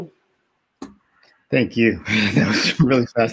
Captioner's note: chuckles